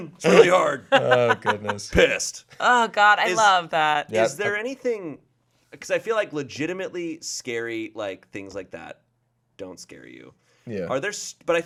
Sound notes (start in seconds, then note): 0.8 laughing